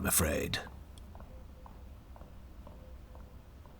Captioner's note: Sophrosyne’s footsteps receding